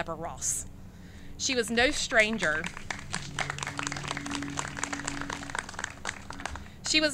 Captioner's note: clapping